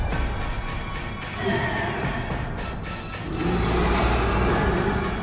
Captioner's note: creature roaring